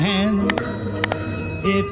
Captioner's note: clap Clap